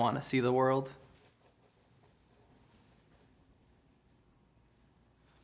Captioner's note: paint brush stroking